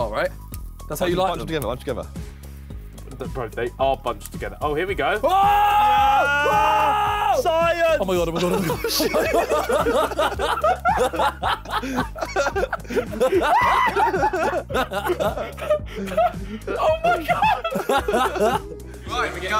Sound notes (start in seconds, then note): 15.5 men laughing